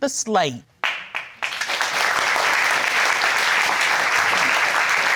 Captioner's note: crowd applauding